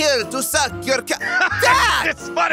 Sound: Vegeta laughing in background

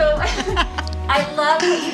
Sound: laughs

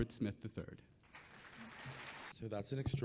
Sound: audience clapping

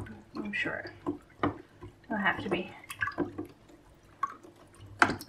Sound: sound of wooden spoon stirring in plastic tub

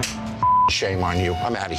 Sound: beep

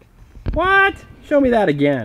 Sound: voiceover

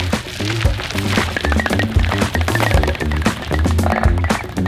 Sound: shoe hitting spokes, bike squeaking

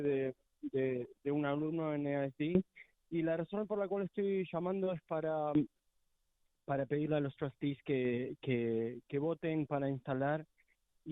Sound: speaking spanish

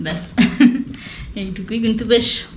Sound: laughing

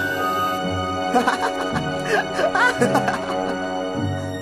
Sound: Spaydi laughs

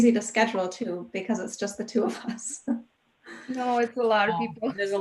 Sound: laughs; chuckles

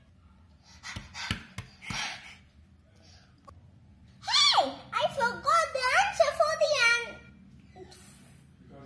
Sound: panting

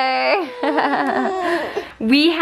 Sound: laughs

